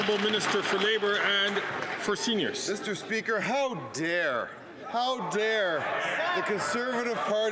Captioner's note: applause